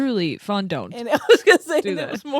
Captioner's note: laughing